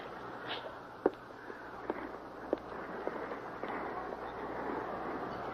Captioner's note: footsteps receding